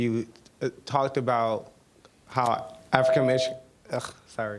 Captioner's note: mic feedback